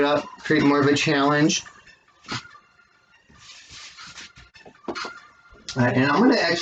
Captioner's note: rustling of blocks against each other and plop of setting block down